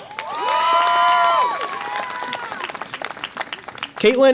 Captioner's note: audience applause and cheer